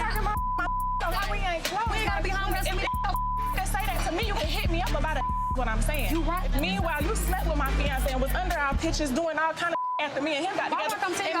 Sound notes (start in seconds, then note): 0.1 beep; 9.7 beep